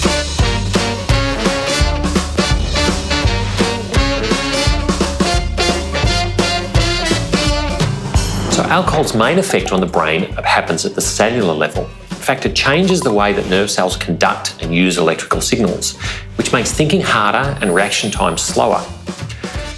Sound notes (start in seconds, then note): 8.6 bubbles popping; 12.7 bubbles popping